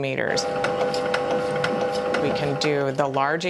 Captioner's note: machine running